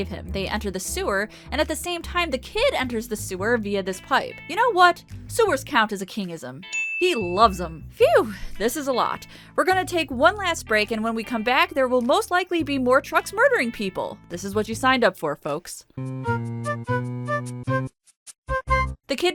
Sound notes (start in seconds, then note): 6.7 ding!